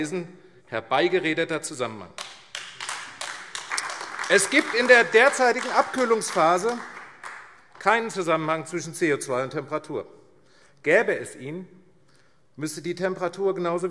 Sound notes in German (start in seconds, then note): 2.1 Beifall AfD